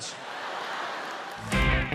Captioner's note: audience laughs; upbeat rock music starts